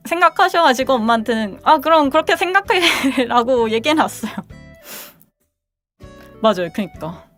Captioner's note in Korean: 콧방귀